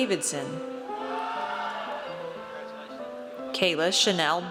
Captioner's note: audience cheers